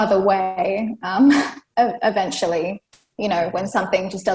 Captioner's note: laughs